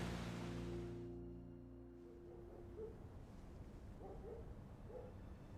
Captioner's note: dog barking